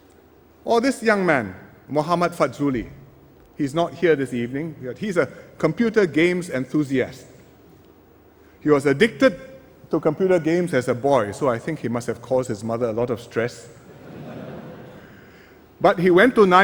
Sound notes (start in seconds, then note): 13.8 laughter